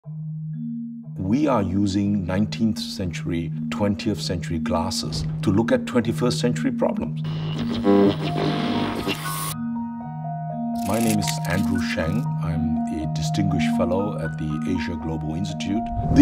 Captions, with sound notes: (soft percussive music) We are using 19th century, 20th century glasses to look at 21st century problems. (static crackling) My name is Andrew Sheng. I'm a Distinguished Fellow at the Asia Global Institute.